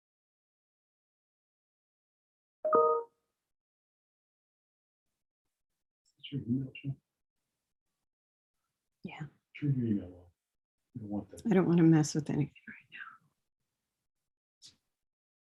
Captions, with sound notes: (computer beeps) - Yeah. I don't wanna mess with anything right now.